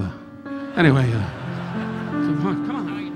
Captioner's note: audience laughing